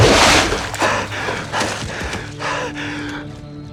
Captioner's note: heavy Breathing